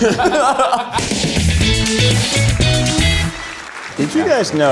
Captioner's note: upbeat music; audience applauding